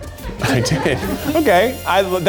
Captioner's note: audience laughs